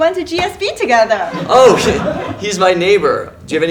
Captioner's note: laugh